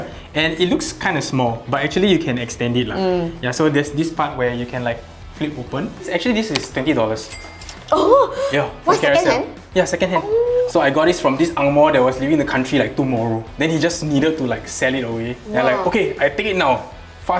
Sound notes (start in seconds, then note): 10.2 gasps